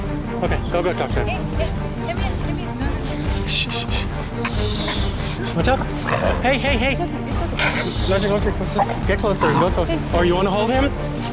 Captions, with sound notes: Okay, go, go talk to him. Hey, hey. Come here, come here. No, no, no. Shh shh shh. Shh. Watch out. [Growl] Hey, hey, hey. It's okay, shh. Watch it, watch your foot, Just get closer. go closer. Or you want to hold him?